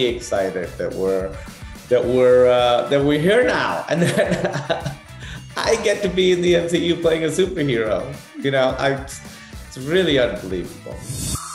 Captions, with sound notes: excited that we're here now. And that [LAUGHS] I get to be in the MCU, playing a Super Hero! You know, it's really unbelievable. [UPBEAT MUSIC]